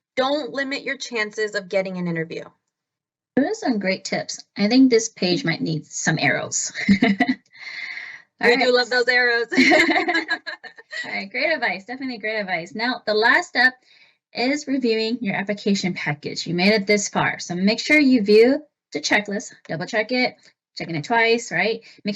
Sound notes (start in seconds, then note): 6.8 chuckles; 9.4 laughs